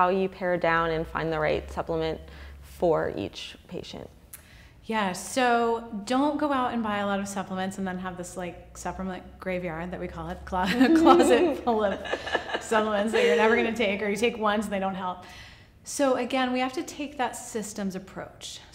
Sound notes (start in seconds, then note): 10.7 laughing